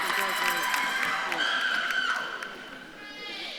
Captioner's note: audience claps and cheers; faintly speaks; audience claps and cheers